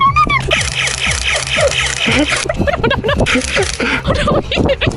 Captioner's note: Nerf blaster firing